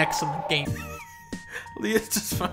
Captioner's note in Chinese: 偷笑